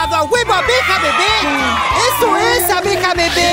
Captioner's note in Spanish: Aplausos